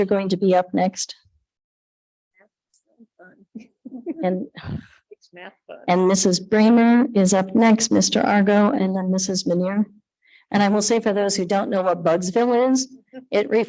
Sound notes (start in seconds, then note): 3.3 talking softly